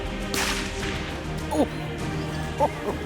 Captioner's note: gunshot